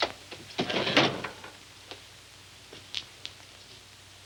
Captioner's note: drawer knocking